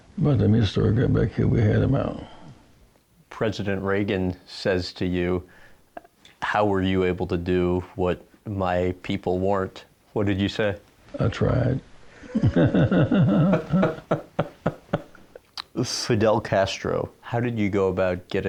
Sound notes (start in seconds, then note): 12.2 both laugh